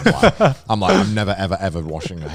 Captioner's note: laughs